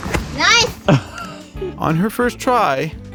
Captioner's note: laughs